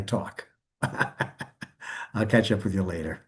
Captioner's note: laughs